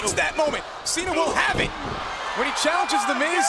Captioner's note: body thudding